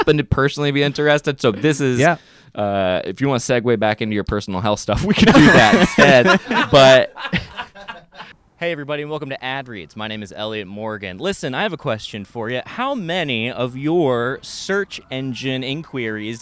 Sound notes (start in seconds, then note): 5.2 everyone laughs